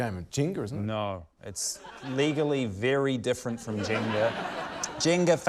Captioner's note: laughter